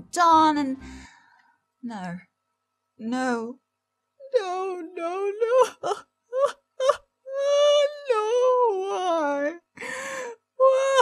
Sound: sobbing

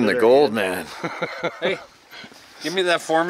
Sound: laughs

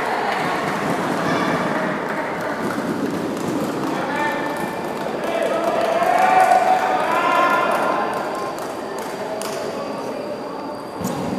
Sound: applause

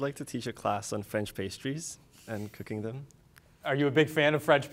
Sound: none

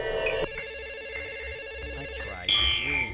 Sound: phone ringing

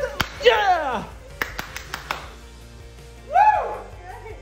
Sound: clapping

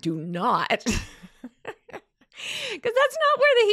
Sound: laughs

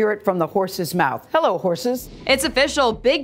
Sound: whooshing

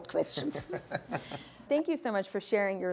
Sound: man laughing

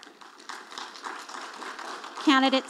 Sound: audience applauding

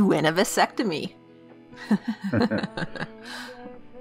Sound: Steve and the Nurse chuckle

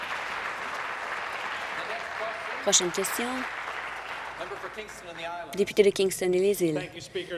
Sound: applause

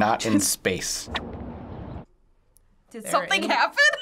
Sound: wind blowing; birds tweeting

